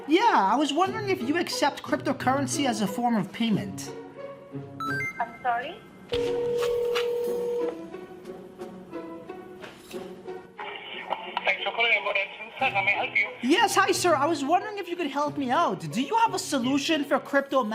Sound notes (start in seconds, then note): 6.2 phone ringing